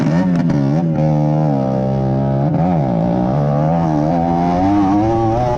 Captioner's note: motorcycle running